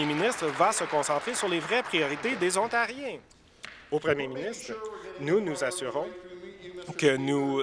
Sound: applause

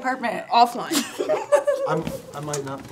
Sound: chuckling

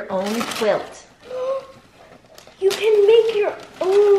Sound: gasps

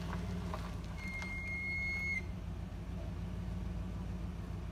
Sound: sqeaking of brakes and a slamming door

